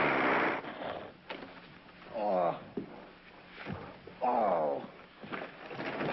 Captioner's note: snorting, grunting; groaning